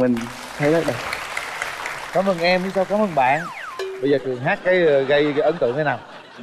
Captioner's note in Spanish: Aplaudir